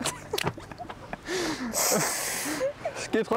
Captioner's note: they laugh